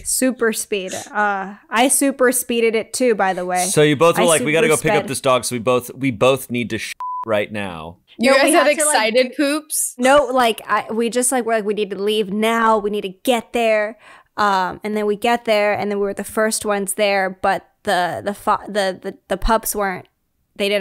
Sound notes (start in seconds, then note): 7.0 beep